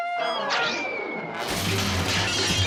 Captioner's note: whistling; crashing